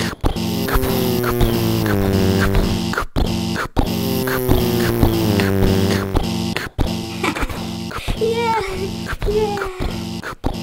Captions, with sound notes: [ car buzzing by] [ car buzzing by] ha ha ha yeah, yeah